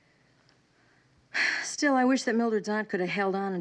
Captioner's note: sighing